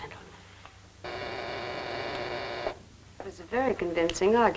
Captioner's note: buzzing